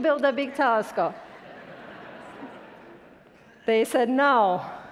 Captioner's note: attendees laughing